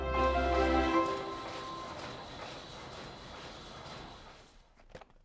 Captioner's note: machine whirring